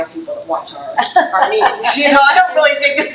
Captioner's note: trustee laughs